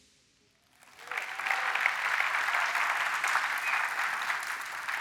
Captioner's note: applause